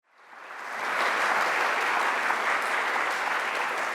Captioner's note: audience applauds